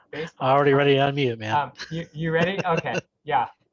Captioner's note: laughs